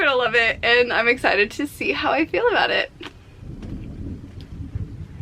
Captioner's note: thunder